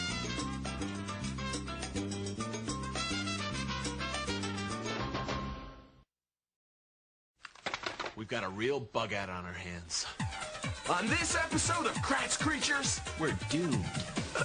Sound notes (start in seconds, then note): 7.6 clatters